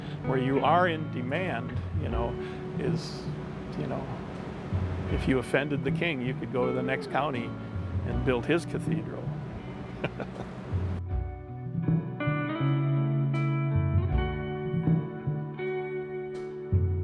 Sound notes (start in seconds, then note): 9.8 laughs; 12.4 soft rock music